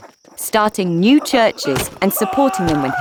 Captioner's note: Silas screaming